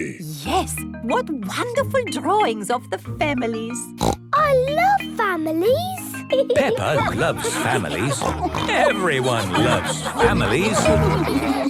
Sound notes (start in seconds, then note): 4.0 snorts; 7.1 snorts